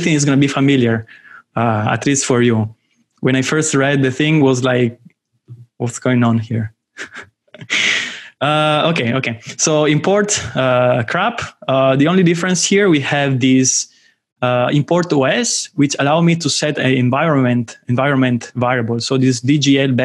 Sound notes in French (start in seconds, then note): 7.0 rires